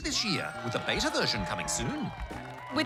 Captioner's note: cheering, applause